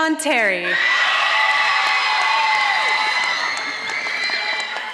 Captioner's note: audience applauding